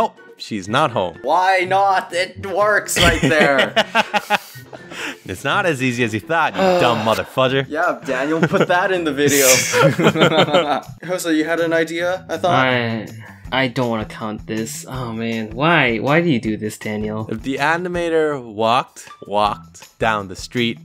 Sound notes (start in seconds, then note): 2.9 laughing evilly; 9.3 laugh